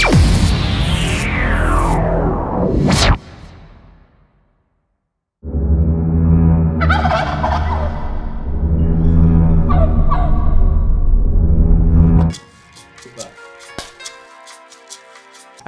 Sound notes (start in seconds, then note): 6.8 turkey gobbles loudly